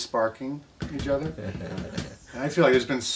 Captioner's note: laughing